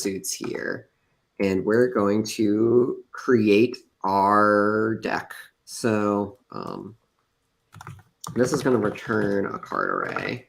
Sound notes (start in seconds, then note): none